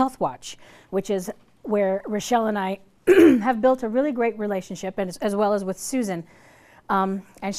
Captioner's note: clears throat